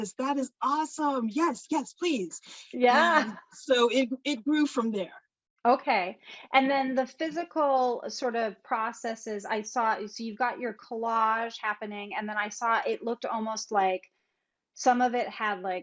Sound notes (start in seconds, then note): 2.9 laughs